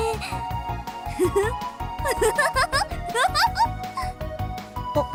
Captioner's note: laugh of greedy anticipation